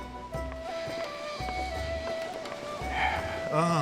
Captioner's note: breaths in deeply